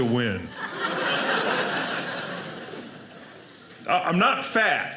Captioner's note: audience laughing